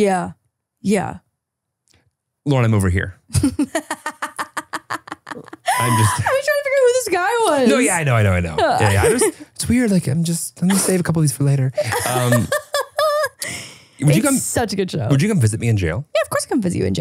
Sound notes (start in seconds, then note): 3.3 laughing heartily